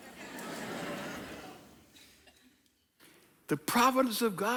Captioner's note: audience laughing